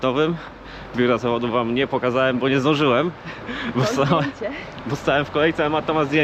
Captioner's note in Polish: śmiech